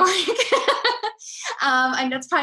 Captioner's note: laughing